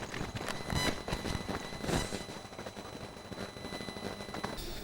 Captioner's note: static crackling